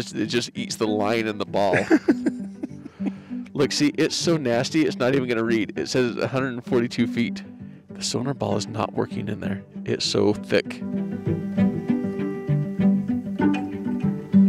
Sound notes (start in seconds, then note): 1.6 laughs; 10.8 suspenseful music